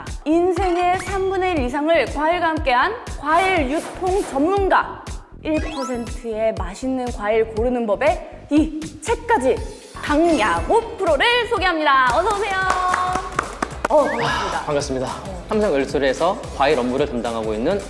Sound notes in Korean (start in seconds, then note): 12.5 박수 짝짝